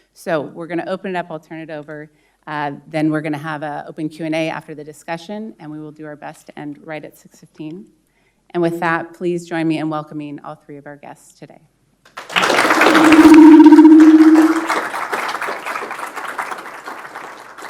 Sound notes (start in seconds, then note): 12.1 audience applauding